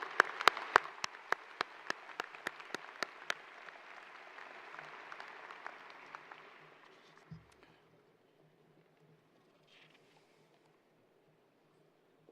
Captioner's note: applause